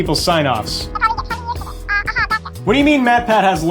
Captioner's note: high-pitched gibberish through phone